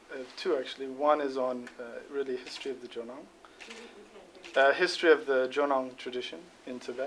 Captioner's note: non-english speech